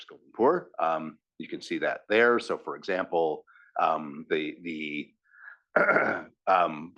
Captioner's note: cough